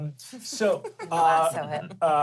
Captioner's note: chuckles